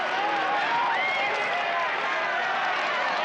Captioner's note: crowd cheering